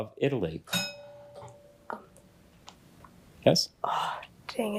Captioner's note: bell rings